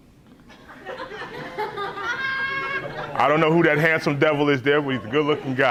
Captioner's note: laughs